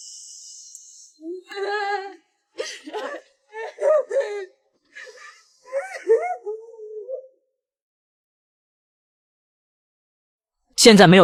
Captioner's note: hahahaha! Hahahaha! Hahahaha!